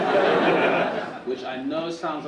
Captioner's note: audience laughing